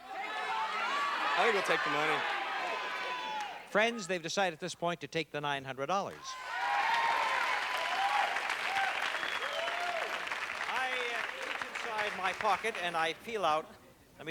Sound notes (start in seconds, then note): 6.1 applause